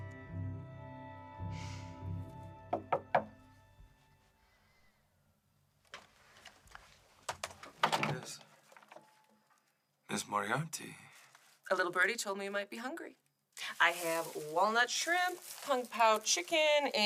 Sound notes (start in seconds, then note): 2.7 door knocks